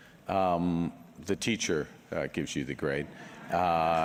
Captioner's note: laughter